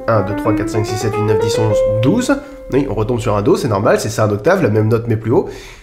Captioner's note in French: none